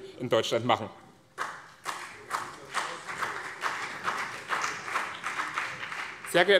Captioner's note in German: Beifall BÜNDNIS 90/DIE GRÜNEN